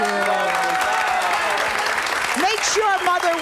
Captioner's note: audience applauds